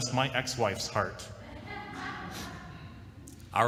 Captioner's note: laughter